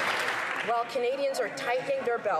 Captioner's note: some Applause